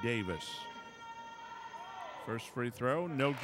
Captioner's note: crowd yelling